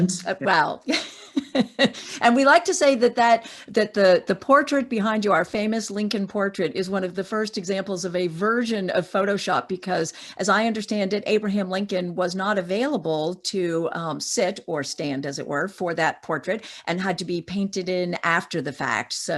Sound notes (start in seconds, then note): 0.0 laughing